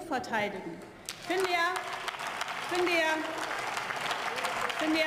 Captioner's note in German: Beifall